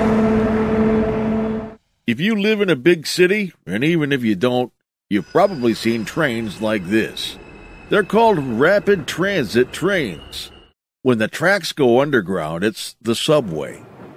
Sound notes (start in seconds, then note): 5.0 train whistling; 5.2 bell clanging